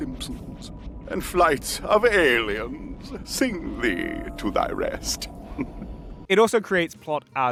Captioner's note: soft chuckle